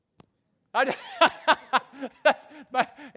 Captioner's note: laughs